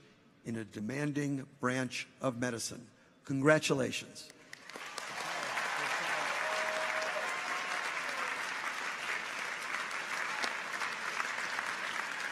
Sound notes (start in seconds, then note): 4.5 audience applauds; 4.6 people cheer